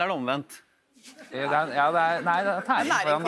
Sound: laughter

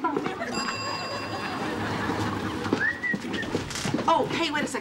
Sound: bell dinging

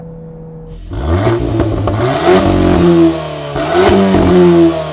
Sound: vehicle engine roaring

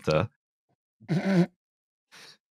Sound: snorts

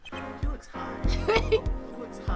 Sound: laughs

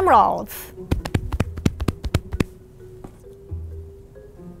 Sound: drumming on chest

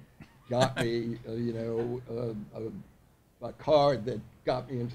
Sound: people laughing

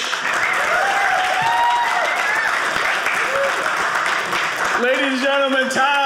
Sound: audience cheering

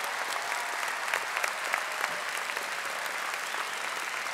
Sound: audience applauding

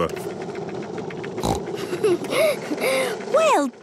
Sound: giggles, snorts

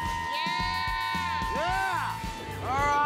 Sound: family cheering

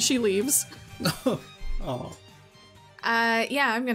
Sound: chuckles

